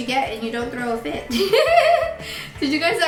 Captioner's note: laughing